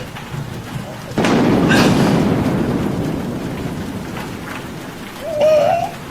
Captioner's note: thunder cracks